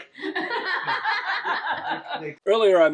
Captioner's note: laughing